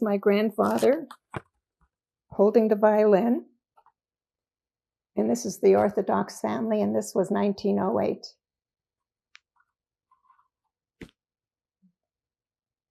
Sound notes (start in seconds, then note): 8.6 pauses 6 seconds